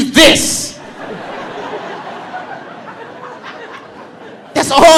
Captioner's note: audience laughing